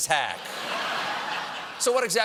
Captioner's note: laughter